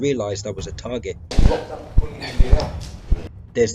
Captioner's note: sliding door